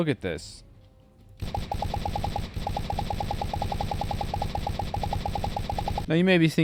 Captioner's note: gunshots